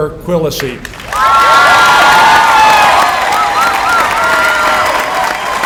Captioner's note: applause